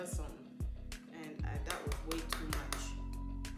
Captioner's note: tap, tap, tap, tap, tap